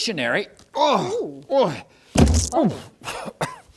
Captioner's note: grunts...noises